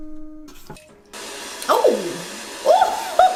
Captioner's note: mechanical whirring; water sprays